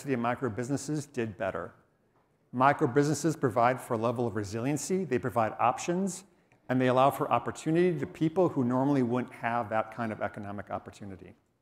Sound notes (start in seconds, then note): none